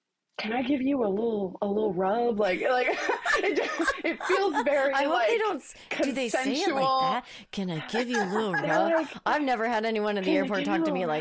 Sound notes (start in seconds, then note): 2.5 laughing